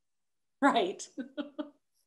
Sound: laughs

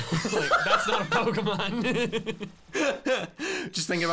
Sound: laughter

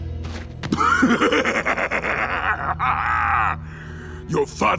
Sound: laughter

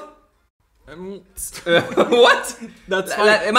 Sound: laughs

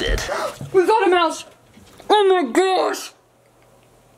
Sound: gasps

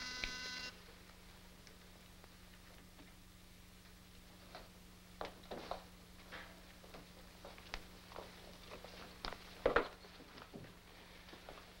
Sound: door buzzer rings

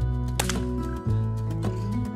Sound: crack!

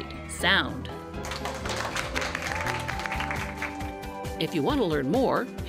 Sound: applause

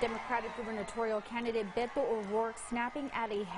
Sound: crowd cheer

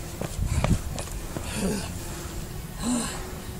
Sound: panting

